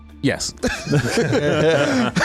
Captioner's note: laughter